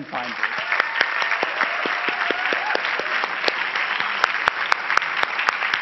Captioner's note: cheering and clapping